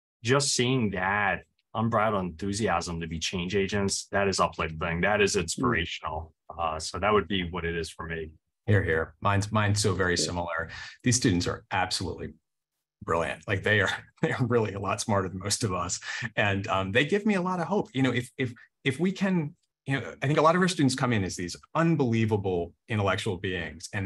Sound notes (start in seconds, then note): 14.1 chuckles